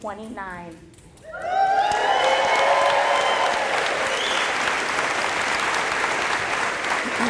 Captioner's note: applause